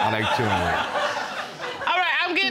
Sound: crowd laughing

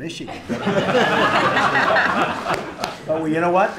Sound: laughter

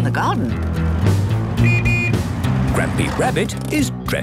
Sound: honking

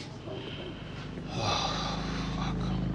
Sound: quietly

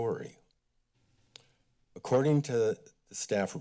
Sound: click tongue

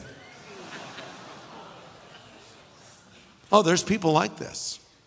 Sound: audience laughing

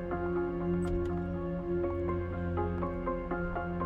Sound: door open & closes

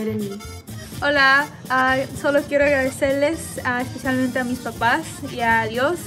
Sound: speaks in foreign language

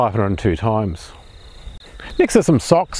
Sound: birds chirping

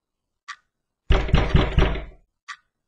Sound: door knocking

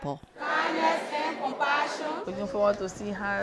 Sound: students reciting Oath of Office

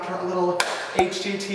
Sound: claps

